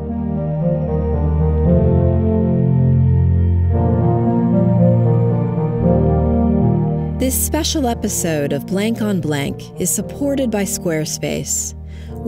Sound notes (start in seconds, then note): 0.1 gentle synthesizer music; 7.3 voiceover